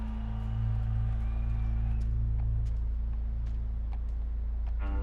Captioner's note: cheering